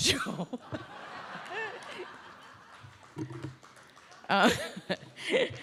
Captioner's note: audience laughs; laughs